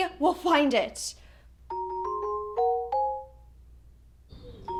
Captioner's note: phone rings